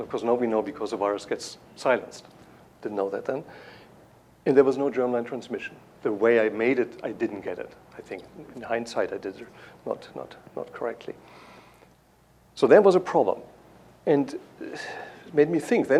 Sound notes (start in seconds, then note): none